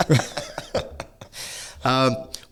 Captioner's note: laughing